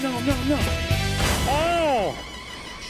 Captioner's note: slab bangs